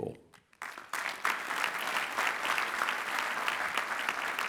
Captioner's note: clapping